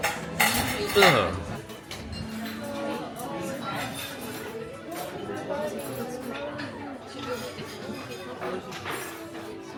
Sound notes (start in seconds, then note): 2.1 guests chattering; 3.2 cutlery clanking